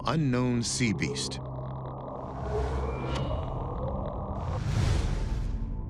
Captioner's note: mysterious sounds vibrating